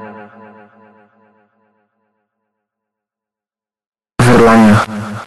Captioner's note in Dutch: Stilte